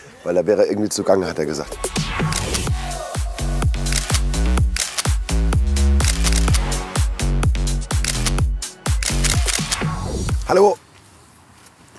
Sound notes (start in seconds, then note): 2.7 dynamic music; 5.1 click